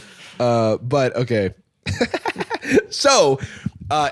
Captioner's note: laughs